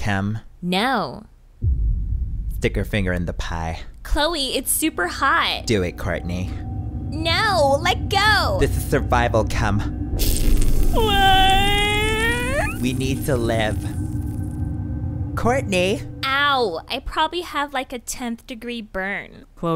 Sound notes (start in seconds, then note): 10.1 sizzling; 10.8 wailing